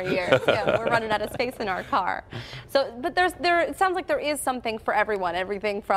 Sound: laughter

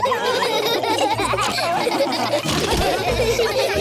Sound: laughter

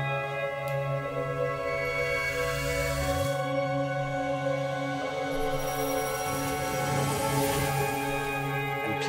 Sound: magic wooshing

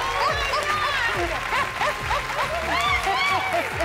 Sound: laughs

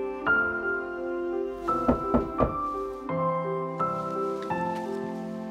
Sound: door thudding

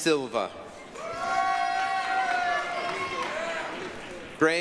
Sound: applause, cheering

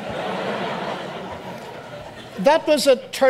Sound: audience laughs

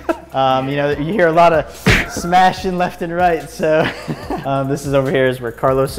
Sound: smack sound

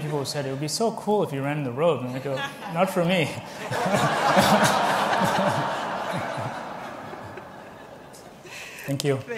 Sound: laughter

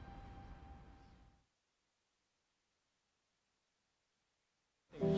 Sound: silence

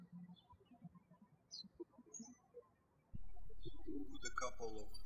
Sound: birds chirping

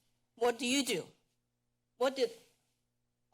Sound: pause

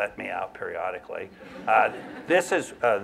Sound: laughter

